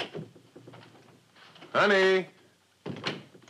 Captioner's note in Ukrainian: відкриття дверей